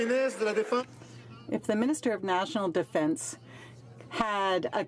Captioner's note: some Applause